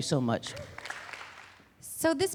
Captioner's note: applause